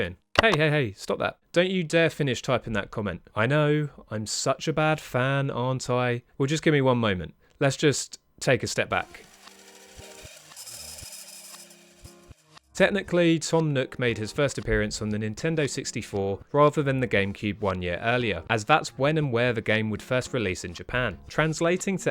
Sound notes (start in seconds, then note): 0.3 pause effect, record stops; 9.1 rewind sound effect